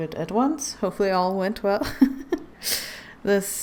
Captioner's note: laughs